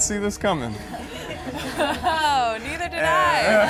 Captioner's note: giggles